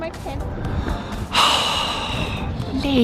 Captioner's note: the man sighs